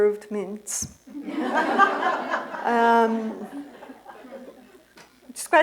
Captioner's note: laughter